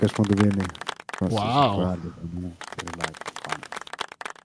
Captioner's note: applause